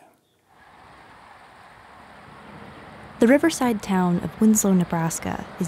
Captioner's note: birds chirping